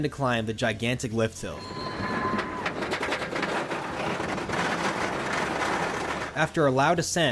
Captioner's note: ratcheting lift hill